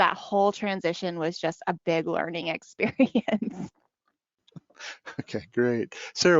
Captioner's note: laughs